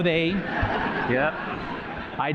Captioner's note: laughter